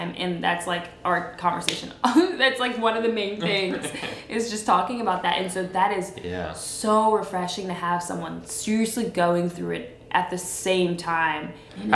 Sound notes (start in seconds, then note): 3.4 laughs